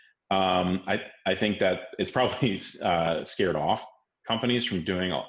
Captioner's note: laughs